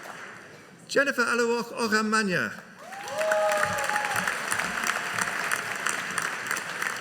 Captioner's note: audience cheering